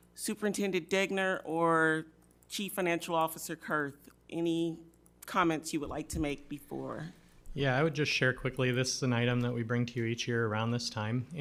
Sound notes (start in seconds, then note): none